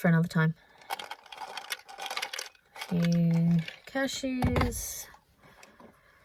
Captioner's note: light clinking into container; thud